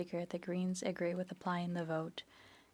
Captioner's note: speaking French